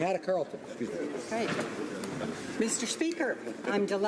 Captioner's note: speaking French